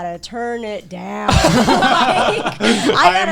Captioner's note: all laughing